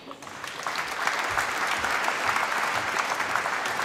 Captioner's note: applause